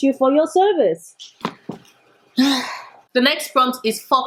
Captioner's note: sigh